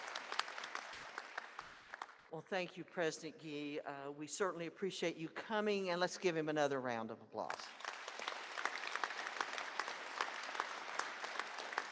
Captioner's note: applause